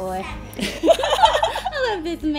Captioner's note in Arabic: يضحك